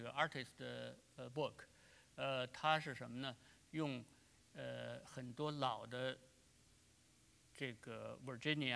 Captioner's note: speaking in Chinese